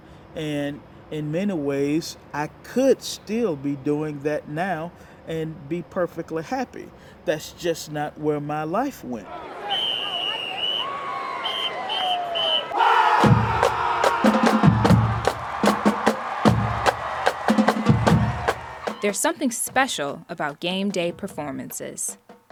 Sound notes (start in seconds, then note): 9.6 whistle blows; 13.1 marching band playing; 13.5 crowd cheering